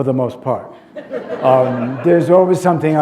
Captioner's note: laughter